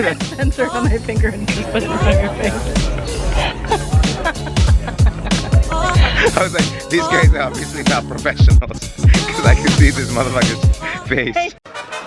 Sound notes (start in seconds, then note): 3.2 laughter